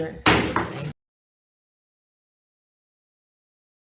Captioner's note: gavel bangs